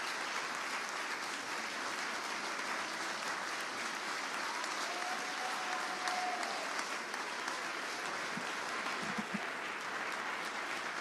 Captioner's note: applause